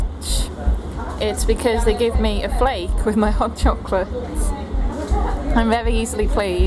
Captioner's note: laughs